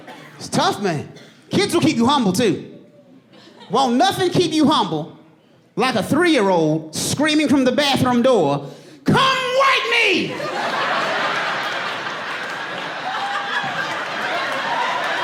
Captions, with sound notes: Won't nothing keep you humble like a three-year-old screaming from the bathroom door, "Come wipe me!" [AUDIENCE LAUGHING]